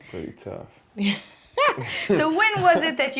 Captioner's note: laughter